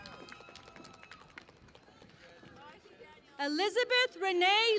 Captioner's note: cheering and Applause